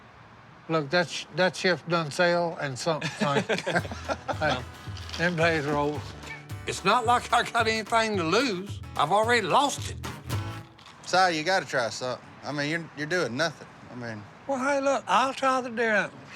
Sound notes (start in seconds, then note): 3.0 laughing